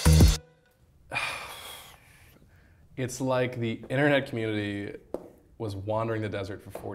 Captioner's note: upbeat pop music; sighing